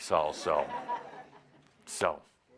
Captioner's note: laughter